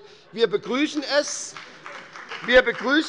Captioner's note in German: Demonstrativer Beifall bei der FDP